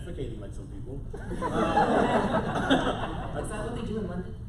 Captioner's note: laughter